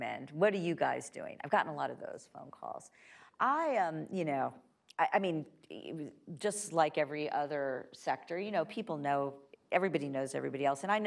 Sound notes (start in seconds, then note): none